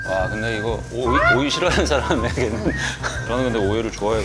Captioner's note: chomp